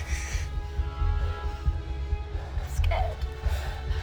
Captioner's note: Adam hisses; dragon growls